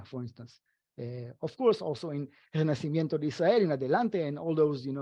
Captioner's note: speaking foreign language